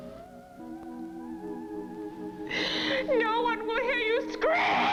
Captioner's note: she screams